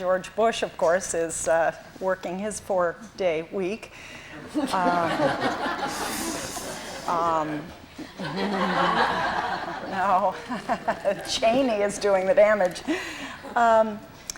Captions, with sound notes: George Bush, of course, is working his four-day week. [LAUGHTER] No. Cheney is doing the damage.